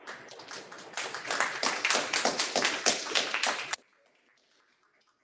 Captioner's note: people clapping